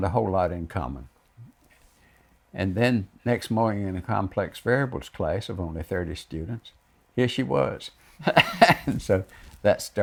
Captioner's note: laughs